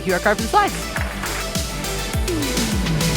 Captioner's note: applause